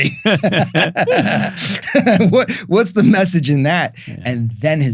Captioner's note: both laughing